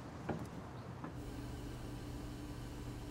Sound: none

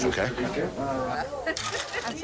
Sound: laughter

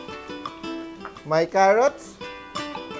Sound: sizzle

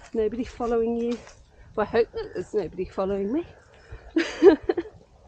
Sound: laughs

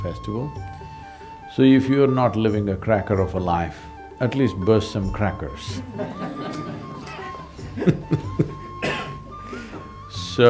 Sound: laughter

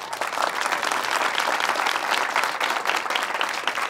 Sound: audience applause

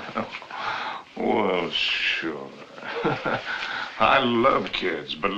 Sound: chuckling

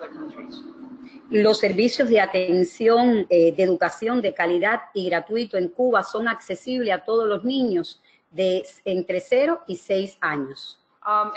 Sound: speaking another language

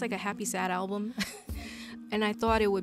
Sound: laughs

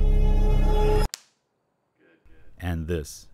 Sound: clap noise

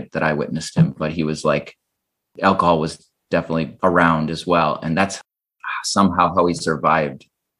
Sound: none

